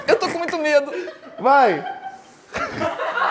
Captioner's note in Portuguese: risadas